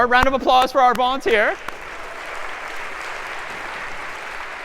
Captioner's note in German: applaus